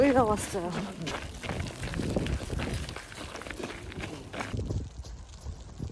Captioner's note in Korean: 바람소리부터 미쳤다